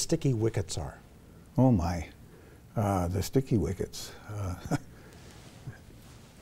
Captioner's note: chuckles